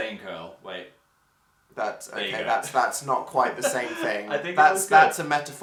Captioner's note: laughs